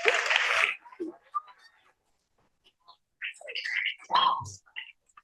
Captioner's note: applause